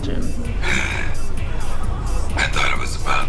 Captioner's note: laughs